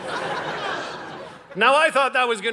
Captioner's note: audience laughing